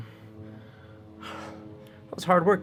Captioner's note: sigh